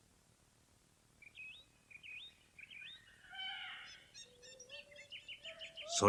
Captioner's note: SFX: birds chirping